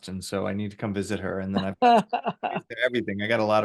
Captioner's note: voice cuts out